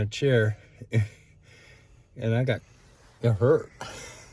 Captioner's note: sighs